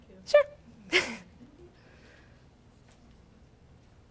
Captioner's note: chuckles